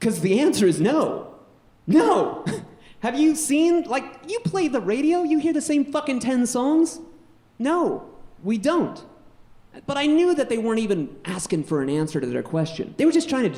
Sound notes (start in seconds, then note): 2.0 laughs weakly